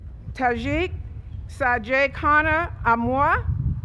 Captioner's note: none